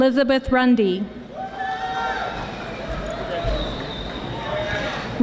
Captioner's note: audience applauding